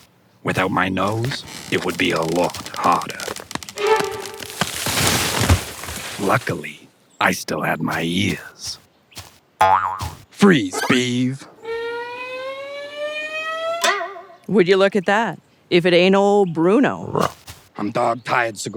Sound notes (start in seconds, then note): 4.7 tree branch snaps; 6.2 Bruno Voice-Over